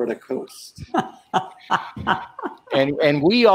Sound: laughing

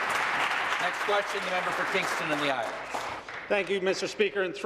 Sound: applause

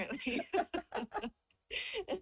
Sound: both laugh

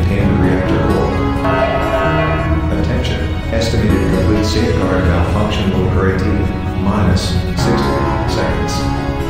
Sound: announcement Chime

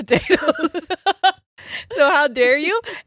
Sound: both laughing

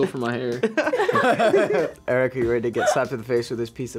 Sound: all laugh

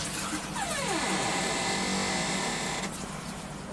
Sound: door creaking

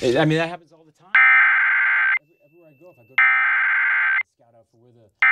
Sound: SAME header tones

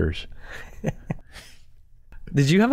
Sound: chuckle

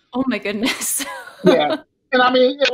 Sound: laughing

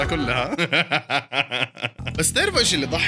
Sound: laughter

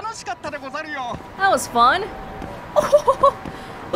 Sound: chuckles

